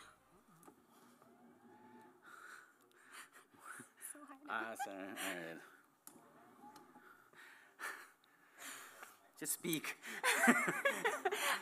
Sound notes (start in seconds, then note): 3.6 Spanish language; 10.1 laughter